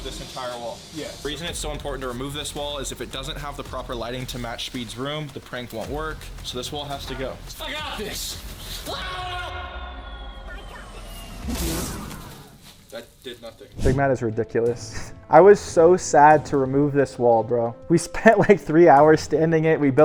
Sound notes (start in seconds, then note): 8.8 shouts; 11.3 effect thuds